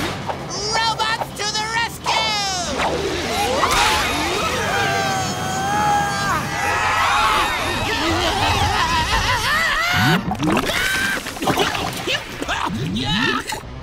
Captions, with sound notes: Robot to the rescue! [grunting] [screaming] Yuck!